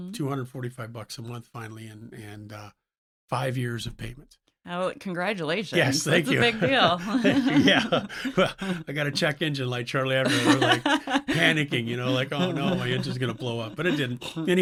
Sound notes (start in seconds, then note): 8.3 laughs